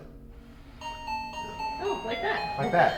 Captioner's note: motion sensor chime